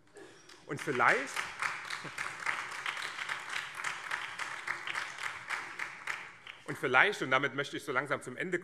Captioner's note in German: Beifall BÜNDNIS 90/DIE GRÜNEN